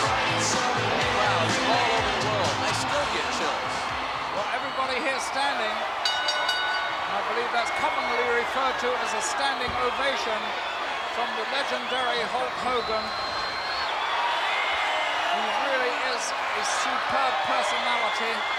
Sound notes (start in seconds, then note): 5.9 bell ringing; 14.0 crowd cheering